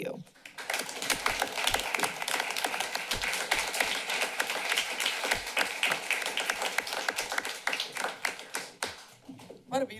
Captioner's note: applause